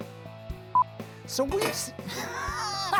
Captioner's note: beeps; laughs